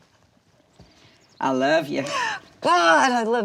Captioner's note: birds chirping